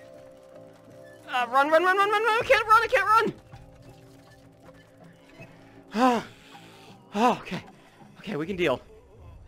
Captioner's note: deep breath